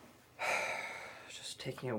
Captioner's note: sigh